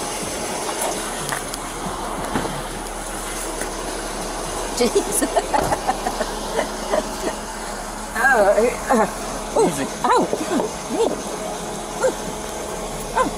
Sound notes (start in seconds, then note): 4.8 laughing